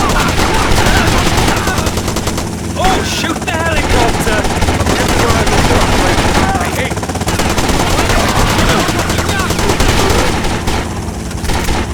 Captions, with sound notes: Oh shoot the helicopter! (gunfire)